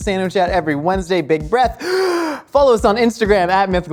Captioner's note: inhales